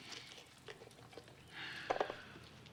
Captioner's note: sighs